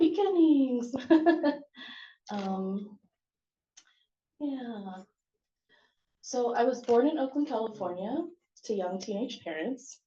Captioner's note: chuckles